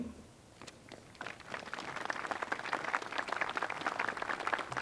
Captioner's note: applause